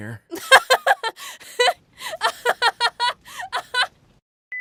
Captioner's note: laughter